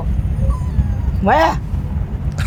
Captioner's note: dog moans